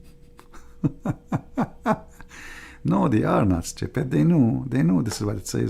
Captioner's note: Ketawa